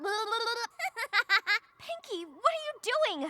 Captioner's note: laughs